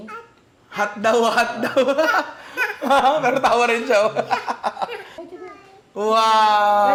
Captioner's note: laughs